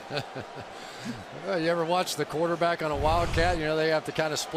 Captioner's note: laughs